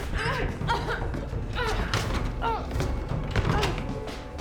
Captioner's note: Claire whimpering